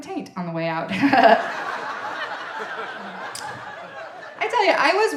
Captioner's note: audience laughing